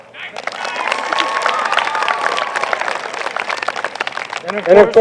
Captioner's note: applause